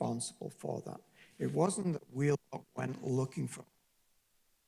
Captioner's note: distorted audio